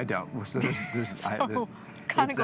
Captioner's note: laughing